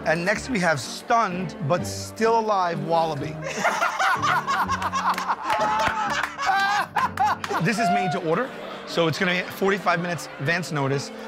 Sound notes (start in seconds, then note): 3.4 laughter